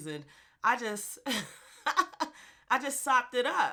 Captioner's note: laughs